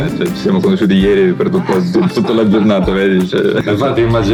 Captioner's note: speaking Italian